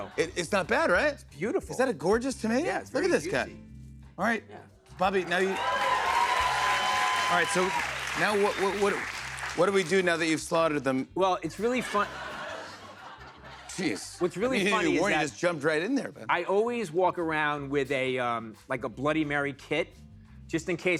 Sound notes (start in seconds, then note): 5.0 cheers and applause; 11.5 laughter